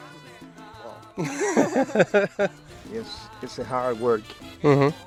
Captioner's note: laughs